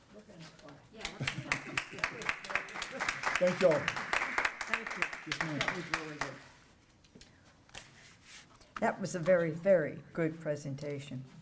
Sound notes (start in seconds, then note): 1.0 applause